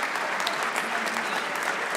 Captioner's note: applause